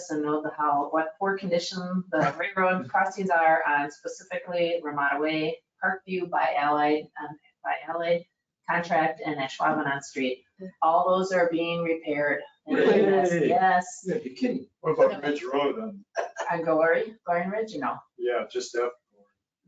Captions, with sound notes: and know how, what poor condition, the railroad costumes are specifically Ramada way, Park view by LA, by LA contract and Ashwaubomay Street. All those are being repaired. (cheering) Yes. You can what about them. And don't worry, Glen ridge. Yeah just do, oh my God.